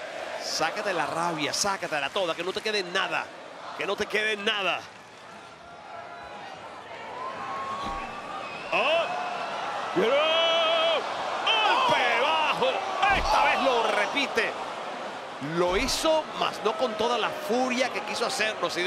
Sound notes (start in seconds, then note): 4.6 applause